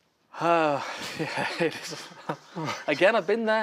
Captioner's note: sighs